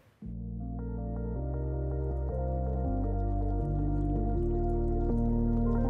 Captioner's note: tranquil music; water flowing